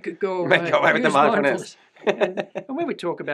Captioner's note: laughter